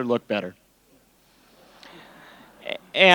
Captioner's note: laughter